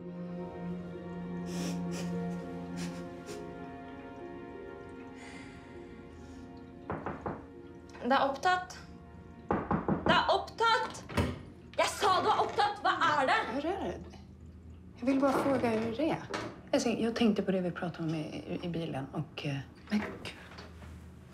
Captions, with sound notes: -[knocking on door] -Occupied. -[knocking] -Occupied! -I said it's occupied! What is it? -How are you? I just want to ask you how you were. I was thinking about what we talked about in the car, and… Oh, my God…